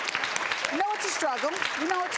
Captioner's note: applause